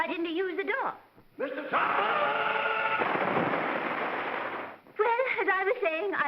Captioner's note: big splash